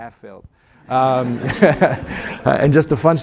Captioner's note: laughter